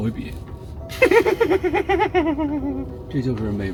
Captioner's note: strange laughter